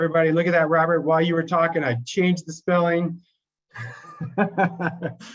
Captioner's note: laughs